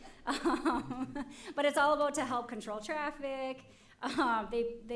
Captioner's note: laughs